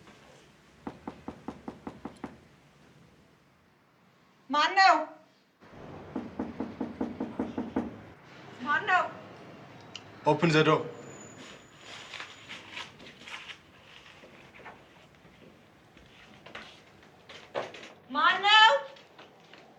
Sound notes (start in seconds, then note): 0.8 knock On Door; 5.8 knock On Door